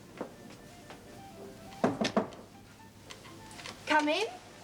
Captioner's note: knocking on door